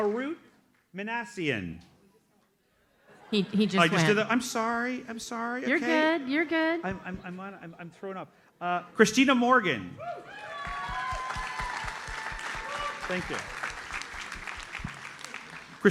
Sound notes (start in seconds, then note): 3.1 audience laughs; 10.1 audience cheers and applauds